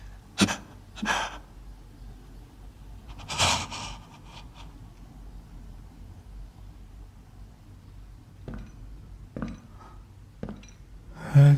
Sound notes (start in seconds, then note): 1.0 gasping; 3.1 breath catching; 8.4 footsteps